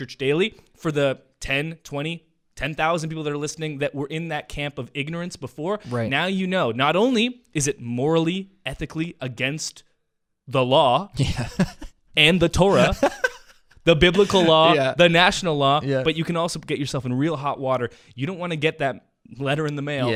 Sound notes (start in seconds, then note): 12.6 laughs